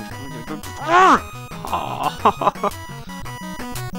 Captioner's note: sobbing